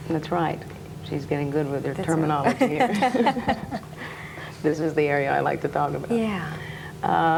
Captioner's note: laughs